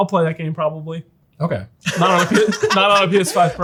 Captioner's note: laughs